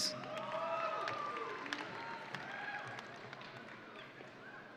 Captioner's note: audience cheering